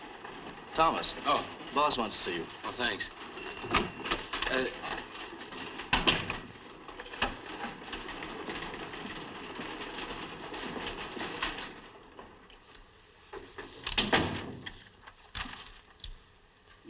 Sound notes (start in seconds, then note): 3.2 door Closes